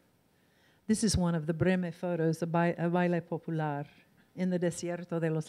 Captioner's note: in foreign language